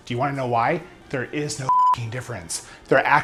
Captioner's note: beep